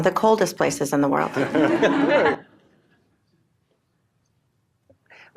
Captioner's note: laughter